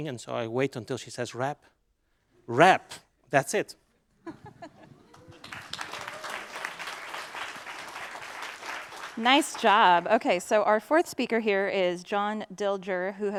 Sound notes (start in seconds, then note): 4.2 laughter; 4.7 applause